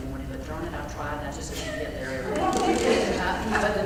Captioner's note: laugh